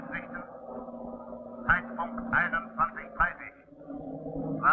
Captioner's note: voices on the radio